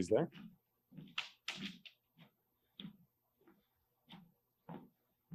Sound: footsteps tapping

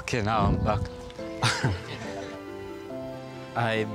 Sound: laughs

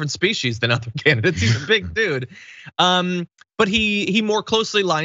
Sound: laugh

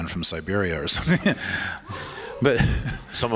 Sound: laughs

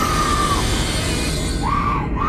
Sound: Red Sister screams

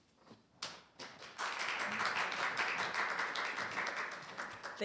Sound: applause

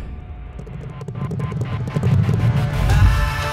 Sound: horses Galloping

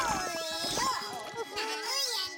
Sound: chuckling

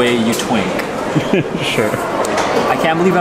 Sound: laughs

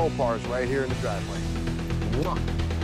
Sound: kiss

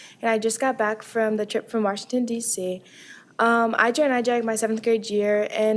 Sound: none

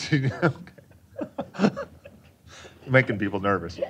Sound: laughter

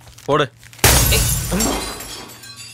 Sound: glass window breaking

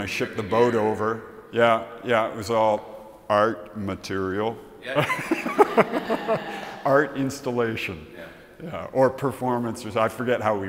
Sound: laughs

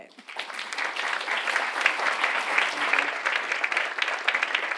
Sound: audience applauds

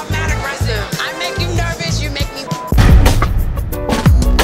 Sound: beep sound; upbeat music

